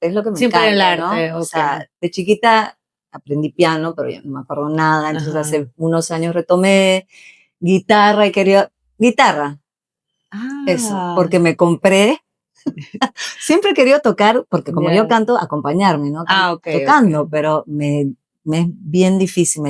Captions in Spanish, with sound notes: es lo que me encanta, ¿no? O sea, de chiquita aprendí piano, pero no me acuerdo nada. Entonces, hace unos años retomé guitarra y quería guitarra. Ah, eso porque me compré [risas] siempre he querido tocar porque como yo canto, acompañarme, no tocando, pero me me es bien difícil,